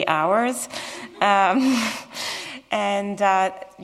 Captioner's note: laughter